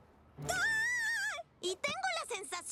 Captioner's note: shriek